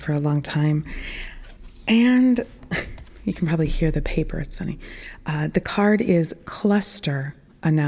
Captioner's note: paper rustling sound